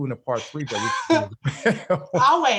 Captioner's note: both laughing